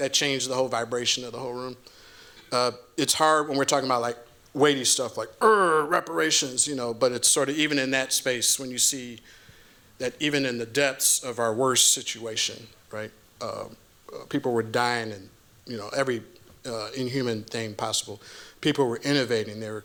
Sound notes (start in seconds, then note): 5.4 groans